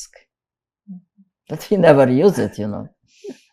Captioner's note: laughing